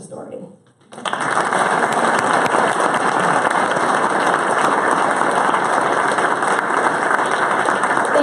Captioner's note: applause